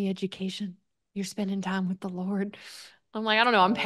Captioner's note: chuckles